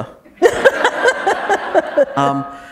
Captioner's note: laughter